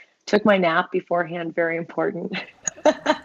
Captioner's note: chuckle